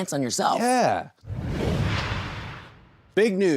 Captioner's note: logo whooshes